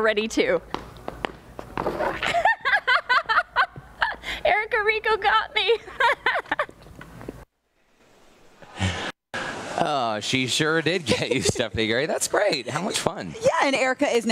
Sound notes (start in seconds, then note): 8.1 laughter